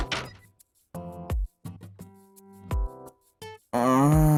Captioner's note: sigh~